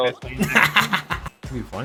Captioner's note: laughs